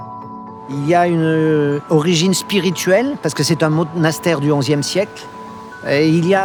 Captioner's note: speaking in foreign language; speaking in foreign language continues